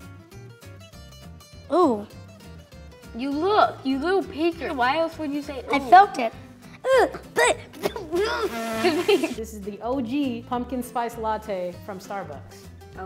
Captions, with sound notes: (upbeat music) - Oo you looked, you little peeker - I felt it, ew *spits* - This is the OG Pumpkin Spiced Latte from Starbucks.